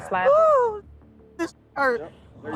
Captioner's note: muted